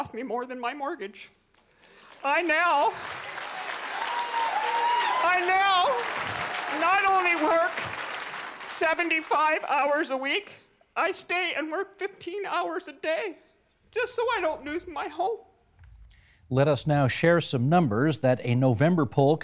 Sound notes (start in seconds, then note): 7.0 applause